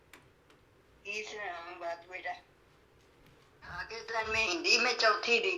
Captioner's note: speaking in foreign language